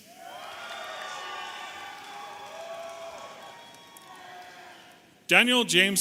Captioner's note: audience applauding and cheering